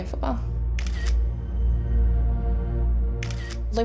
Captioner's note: camera shutter clicking; dramatic music